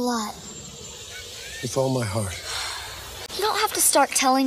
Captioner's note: sigh